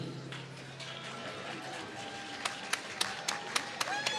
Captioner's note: applause